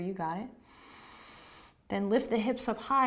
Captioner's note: inhaling